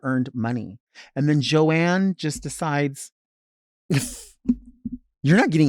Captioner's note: laughs